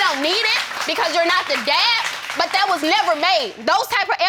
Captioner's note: audience applauding